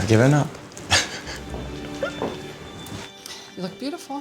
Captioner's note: chuckles